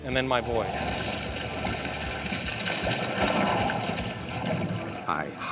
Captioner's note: whooshing, crackling